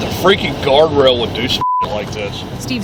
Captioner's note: beeps